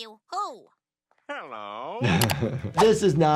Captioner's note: laughs